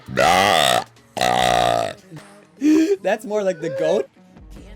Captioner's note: burps loudly